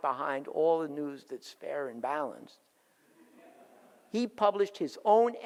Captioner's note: audience laughs